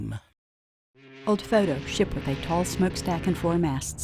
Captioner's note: ship's horn blasts